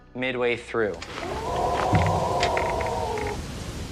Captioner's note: howling; howling stops abruptly